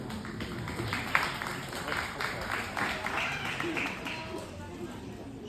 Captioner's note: applause